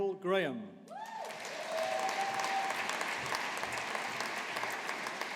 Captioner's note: audience applauding